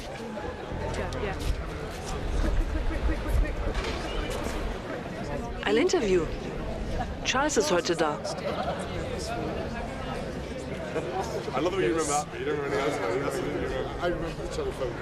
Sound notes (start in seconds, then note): 0.3 voiceover; 6.9 soft talking